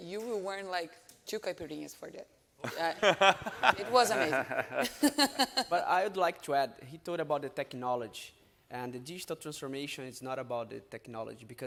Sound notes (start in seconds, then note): 2.6 all laughing; 5.2 laughs